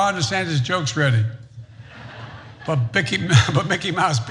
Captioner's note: laugh